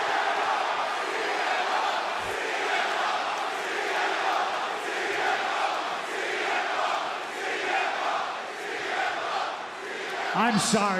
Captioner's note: crowd chants "cm punk"